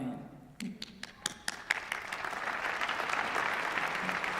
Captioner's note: applause